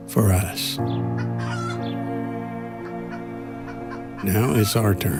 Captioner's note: chickens clucking